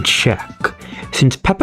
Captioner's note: inhales Oxygen